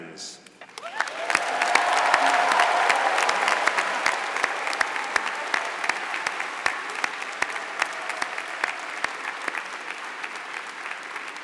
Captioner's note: applause